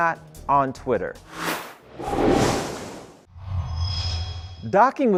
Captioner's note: sound Effects